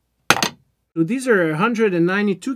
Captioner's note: metal clanks